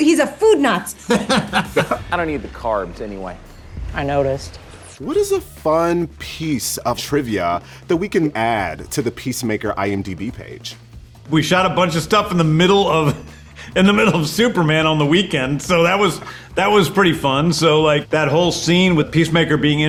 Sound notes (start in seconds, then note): 0.8 laughs